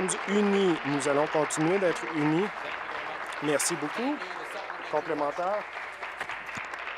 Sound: applause

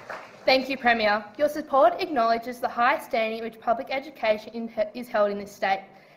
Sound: applause

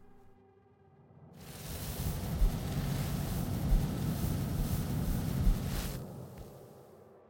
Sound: wind and fire sounds; music fades away

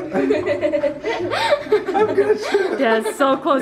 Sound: boys laugh

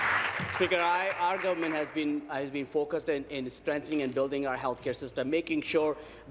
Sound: applause

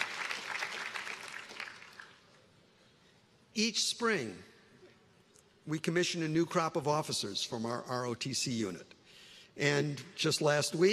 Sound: applause

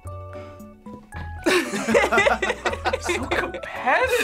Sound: both laugh

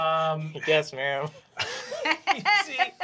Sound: laughing

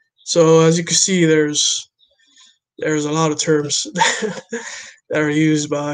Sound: laughs

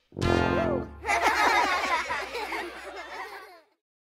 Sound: Kids and Bob laughing

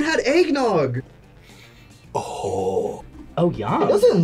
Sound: sniffs

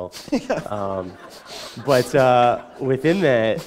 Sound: laughter

